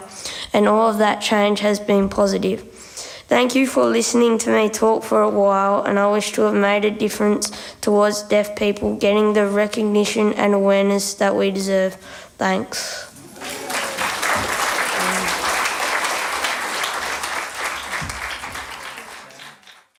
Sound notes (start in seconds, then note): 13.2 applause